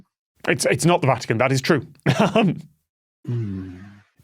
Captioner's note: chuckles